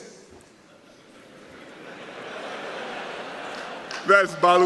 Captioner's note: laughter